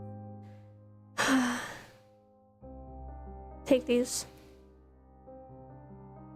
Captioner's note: sighs